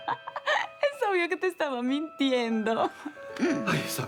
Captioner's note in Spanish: Risas